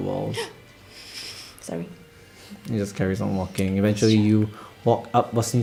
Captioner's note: gasps